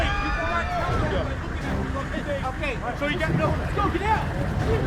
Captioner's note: explosions and screaming